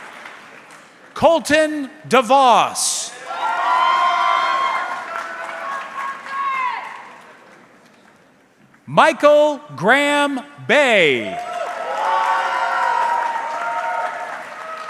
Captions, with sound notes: Colton DeVos. (audience cheering) (audience member shouting indistinctly) Michael Graham Bay. (audience cheering)